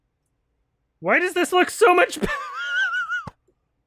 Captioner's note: wheezes with laughter